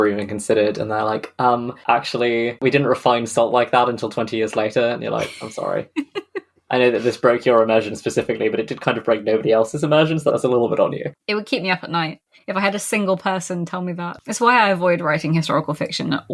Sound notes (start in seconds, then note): 6.8 laughs